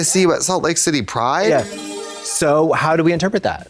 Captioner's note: bright chime